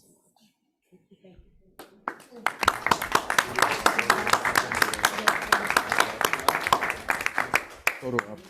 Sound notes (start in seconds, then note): 1.8 board members clapping